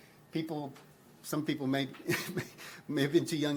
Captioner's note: chuckles